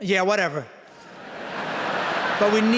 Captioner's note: laughter